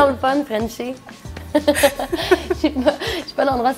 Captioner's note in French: rires